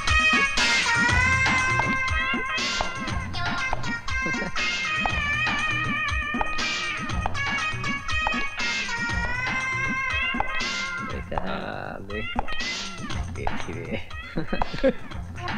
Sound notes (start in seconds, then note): 4.1 chuckles; 14.3 chuckles